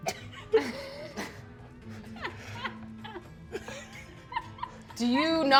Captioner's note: players laughing quietly